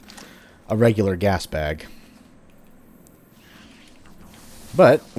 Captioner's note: distant Matango alerted, followed by Fwooshing